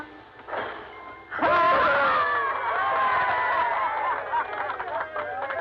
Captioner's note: all cheering and clapping